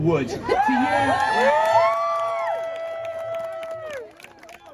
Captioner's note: crowd cheers